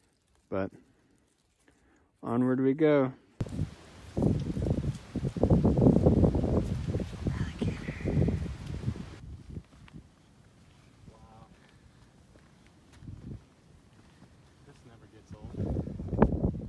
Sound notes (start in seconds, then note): 7.2 whispers "Alligator"